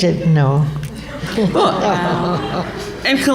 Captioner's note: laughter